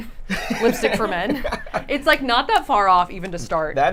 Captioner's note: laughs